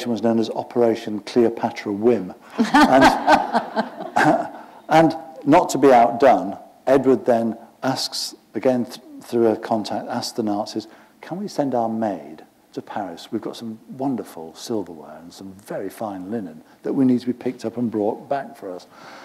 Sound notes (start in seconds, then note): 2.5 laughter